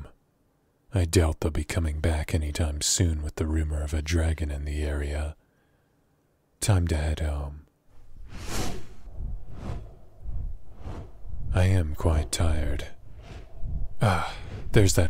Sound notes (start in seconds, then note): 8.7 wing noises